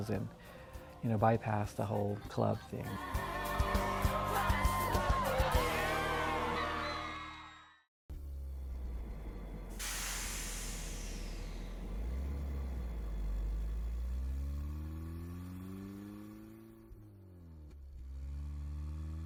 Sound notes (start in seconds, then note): 10.0 traffic humming